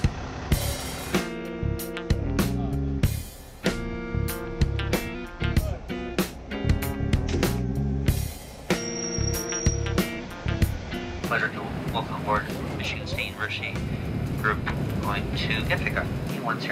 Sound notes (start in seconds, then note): 0.9 blues music; 9.6 brakes squeaking